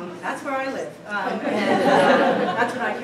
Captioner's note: laughter